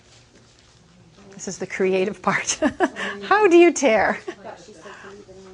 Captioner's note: laughing